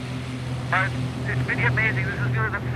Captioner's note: over microphone